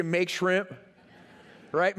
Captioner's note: laughter